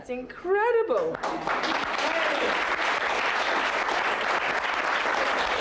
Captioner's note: audience applauding